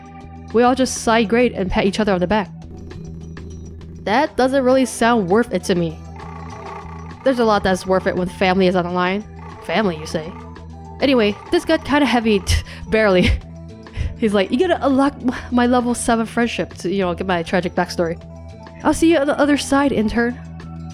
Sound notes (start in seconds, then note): 13.0 chuckles